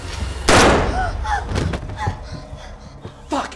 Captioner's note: gun fires; gasping